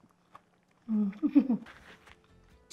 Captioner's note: laughs